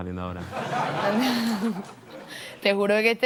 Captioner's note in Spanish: Risas